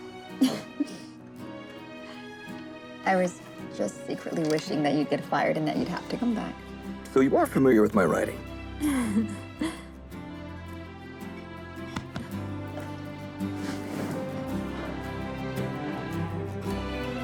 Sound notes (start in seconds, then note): 8.8 happy laugh